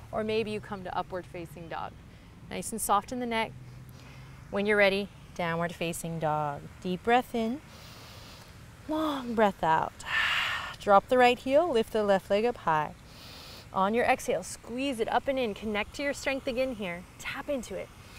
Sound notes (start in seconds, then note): 7.7 inhales; 10.0 exhales